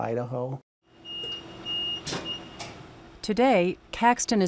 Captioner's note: machine beeping